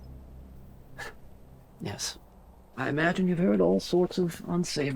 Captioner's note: scoffs